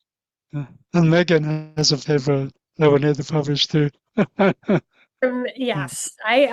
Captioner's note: laughs